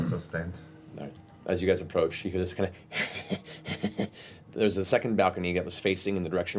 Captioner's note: wheezing laughter